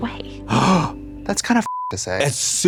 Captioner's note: Katya gasps; beep